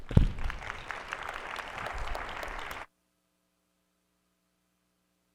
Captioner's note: attendees applauding